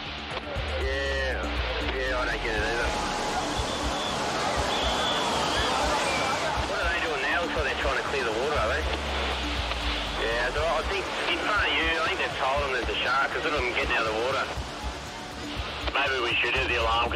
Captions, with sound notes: - Yeah, yeah, I don't get it either. (whistle blowing) What are they doing now before they're trying to clear the water? Are they? Yeah, I think in front you. I think they've told them there's a shark cause look at the getting out of the water. - Maybe we should do the alarm.